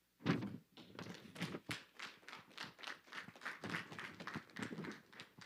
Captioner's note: audience clapping